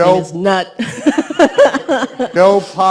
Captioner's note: laughs